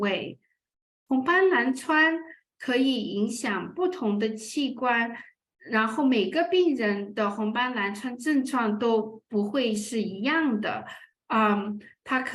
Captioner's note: speaking chinese